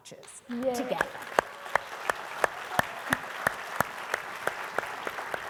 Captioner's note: audience applauding